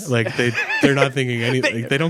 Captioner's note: laughing